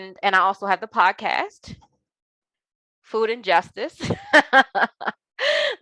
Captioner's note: laughing